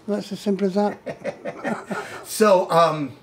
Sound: laughs

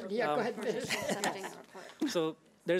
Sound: laughs

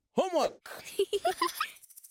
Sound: giggling

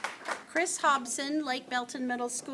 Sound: applause

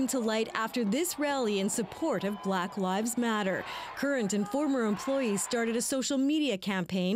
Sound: chanting

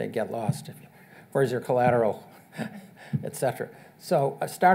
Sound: chuckles

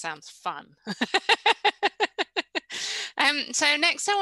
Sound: laughs

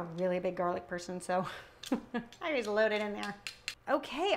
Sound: chuckling

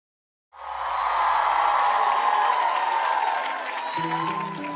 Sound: audience cheering

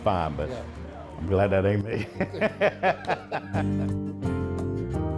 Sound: laughs

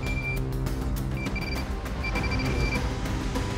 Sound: beeping

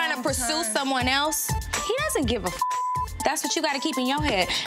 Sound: beep

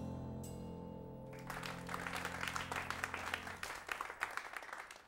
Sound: audience applauding

